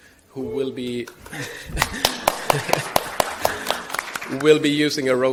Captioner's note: audience applauding